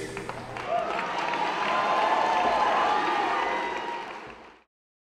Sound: audience applauding

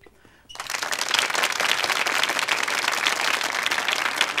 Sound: applauding

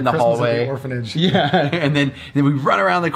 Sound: laughs

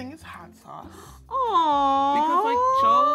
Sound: gasps

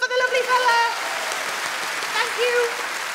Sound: audience claps

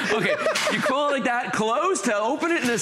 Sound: laughter

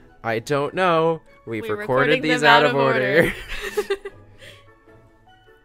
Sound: laughs

